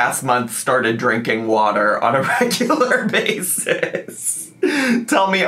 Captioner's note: laughs